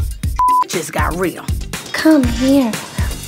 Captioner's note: beep